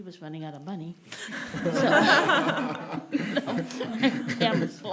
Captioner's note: laughing